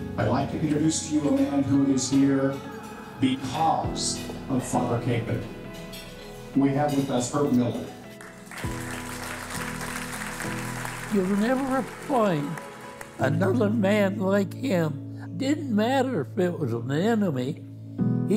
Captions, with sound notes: I'd like to introduce to you a man who is here because of Father Kapaun. We have with us Herb Miller. (audience clapping) - You'll never find another man like him. Didn't matter if it was an enemy,